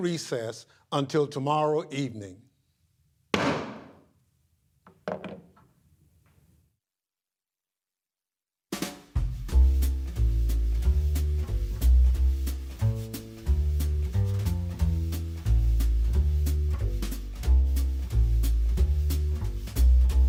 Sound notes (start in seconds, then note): 5.0 gavel pounding